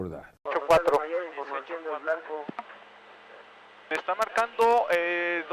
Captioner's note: in vreemde taal